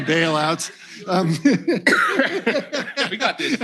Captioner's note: laughter